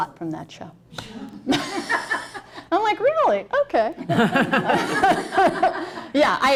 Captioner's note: laughter